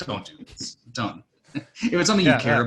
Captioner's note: laughing